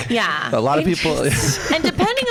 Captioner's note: laughs